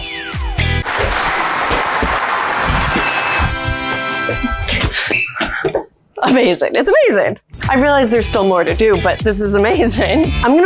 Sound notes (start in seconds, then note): 0.8 people cheering; 0.9 fanfare playing